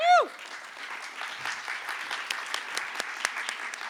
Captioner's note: applause